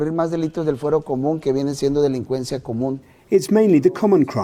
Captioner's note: speaking foreign language